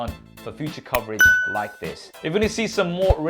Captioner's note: bell dings